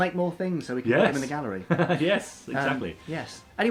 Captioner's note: laughs